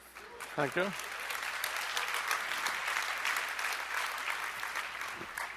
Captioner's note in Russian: Аплодисменты